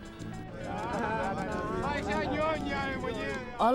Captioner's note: laughter, indistinct talking